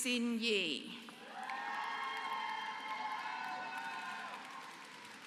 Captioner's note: applause